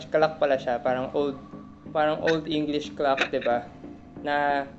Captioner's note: laughs